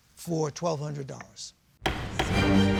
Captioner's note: bangs gavel